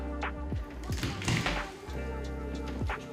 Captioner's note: door opens